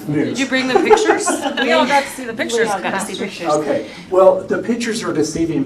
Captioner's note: laughter